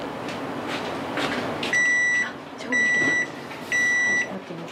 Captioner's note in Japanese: 焼き上がりの音